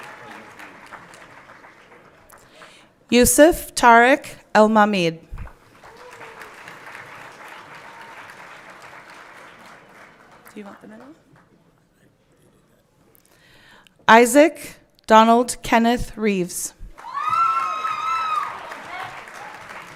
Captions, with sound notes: Yusif Tarek Almahmid. (everyone clapping) Do you want the middle? Isaac Donald Kenneth Reeves. (everyone cheering)